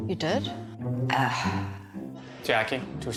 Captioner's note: sigh